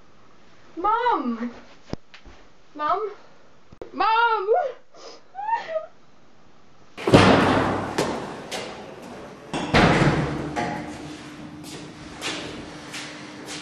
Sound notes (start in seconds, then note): 5.3 sobs